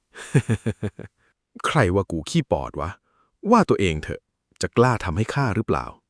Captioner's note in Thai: เสียงหัวเราะ